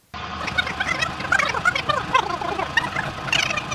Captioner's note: sped-up vocals